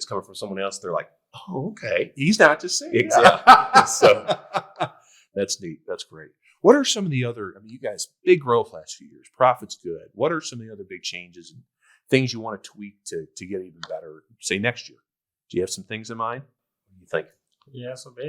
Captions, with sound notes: and it's coming from someone else, they're like, Oh, okay. - He's not just saying that. (all laughing) - Exactly. So. - That's neat. That's great. What are some of the other, I mean, you guys big growth last few years, profit's good. What are some of the other big changes, things you wanna tweak to, to get even better say, next year? Do you have some things in mind? - I think.